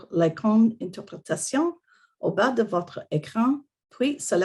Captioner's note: French